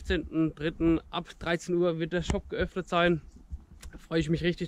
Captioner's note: german